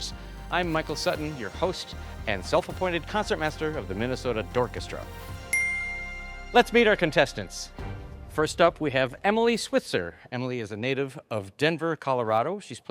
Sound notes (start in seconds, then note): 5.5 bell dinging